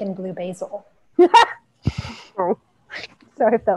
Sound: laughs

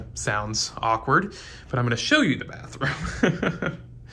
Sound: laughs

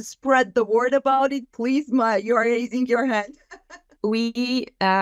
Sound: laughs

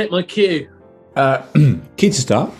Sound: clears throat

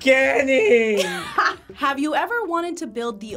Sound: React laughs

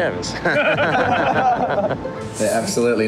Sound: men laughing

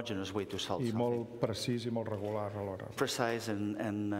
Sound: speaking catalan

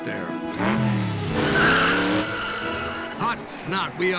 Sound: engine revving and tires screeching

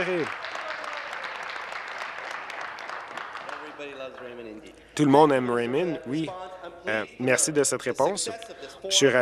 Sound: applause

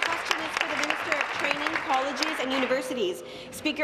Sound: applause

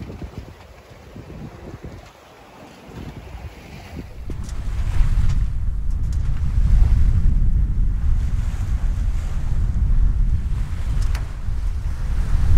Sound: sea and wind noise

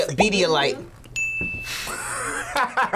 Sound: bell rings; laughs

